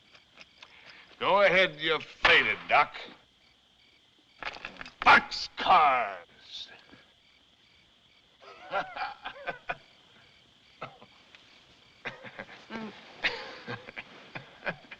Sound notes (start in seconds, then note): 8.4 laughs; 10.4 coughs, Laughs